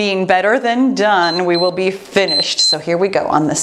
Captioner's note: timer beeps